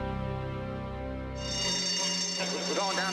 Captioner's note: bell ringing